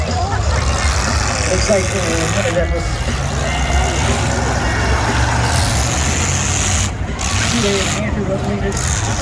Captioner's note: cars hit; crowd cheers; engines rev, cars hit; crowd cheers